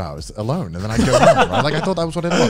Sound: laugh

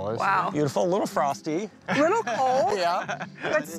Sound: laughing

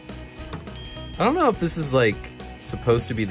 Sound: dinging

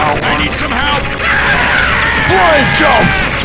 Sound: screams

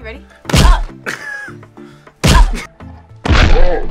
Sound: laughs

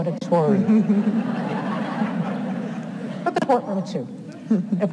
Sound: audience laughs

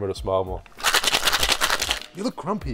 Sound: ice cubes grinding

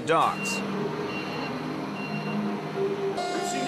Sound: forklift beeping

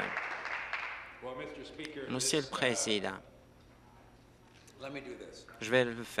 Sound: applause

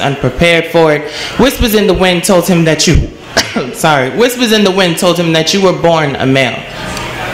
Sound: coughs

